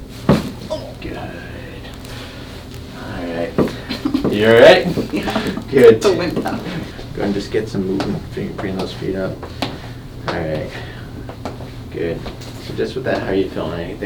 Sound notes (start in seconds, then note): 0.3 popping noise; 3.6 laughing; 5.2 woman whimpers; 11.2 footsteps on floor